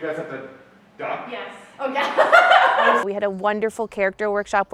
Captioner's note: laughter